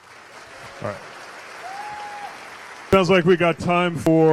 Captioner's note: cheers/applause